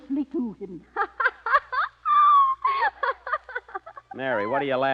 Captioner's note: laughter